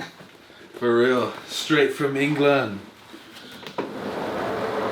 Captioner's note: British accent